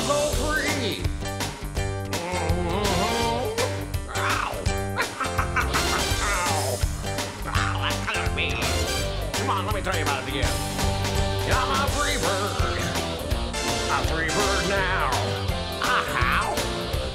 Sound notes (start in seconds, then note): 4.8 laughing; 5.1 squawking